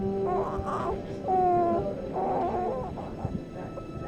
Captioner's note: baby cooing